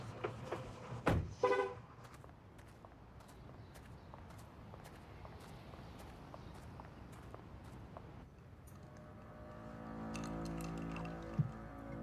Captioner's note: car beeps